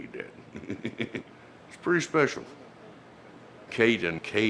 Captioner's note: chuckles